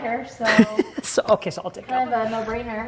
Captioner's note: chuckles